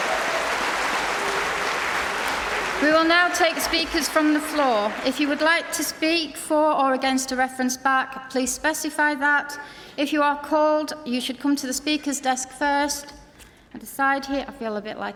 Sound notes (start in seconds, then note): 5.1 applause